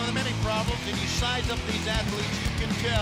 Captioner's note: crowd cheering